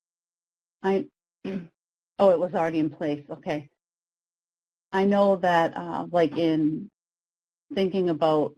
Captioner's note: clears throat